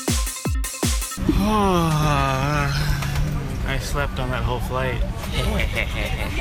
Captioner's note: dance Music; sighs